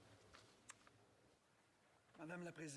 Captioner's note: speaking in french